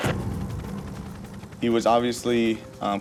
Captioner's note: helicopter whirs